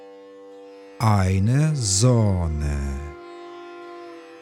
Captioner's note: german